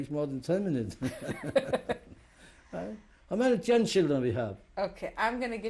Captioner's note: laughs